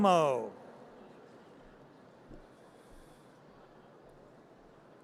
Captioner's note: audience cheers